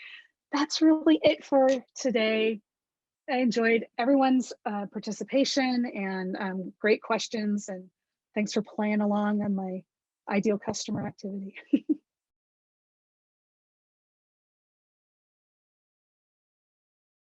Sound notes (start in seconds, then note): 11.6 laughter